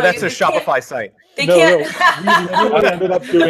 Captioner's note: laughing